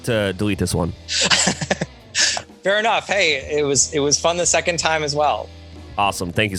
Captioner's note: laughs